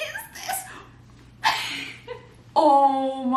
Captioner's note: giggles